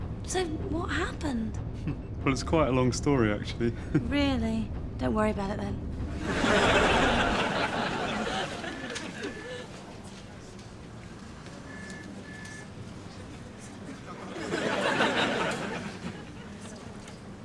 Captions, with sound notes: So, what happened? - Well, it's quite a long story actually. - Really? Don't worry about it then. (audience laughs) (phone ringing) (audience laughs)